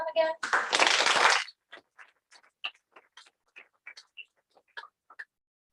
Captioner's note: applause